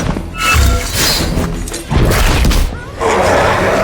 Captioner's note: air whooshing